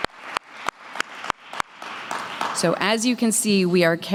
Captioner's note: applause